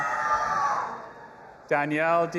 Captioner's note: audience cheering